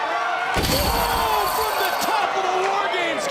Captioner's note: shouting; crashing